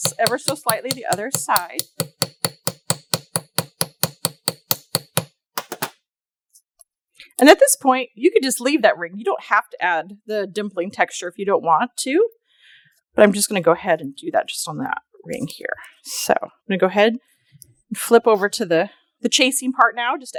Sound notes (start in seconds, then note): 2.0 light hammering